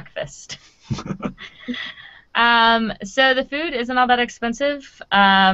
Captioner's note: laughing